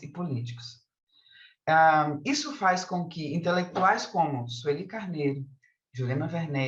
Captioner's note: continues speaking in Portuguese